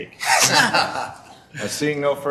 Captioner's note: group chuckling